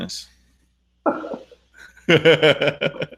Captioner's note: laughing